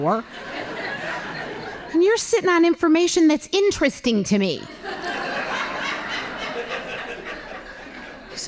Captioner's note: laughing; laughing